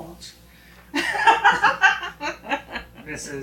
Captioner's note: both laughing